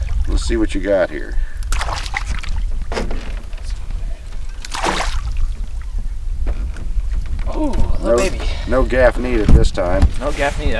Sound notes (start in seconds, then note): 4.6 splash